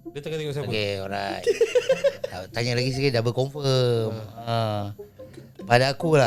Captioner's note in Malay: ketawa